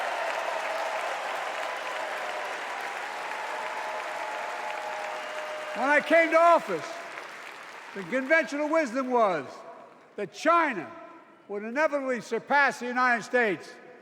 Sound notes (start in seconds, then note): 2.8 cheers and applause